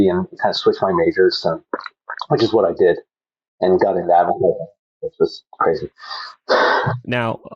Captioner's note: laughs